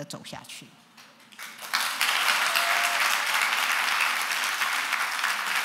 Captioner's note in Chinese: 掌聲